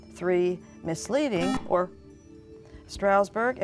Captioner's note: beeping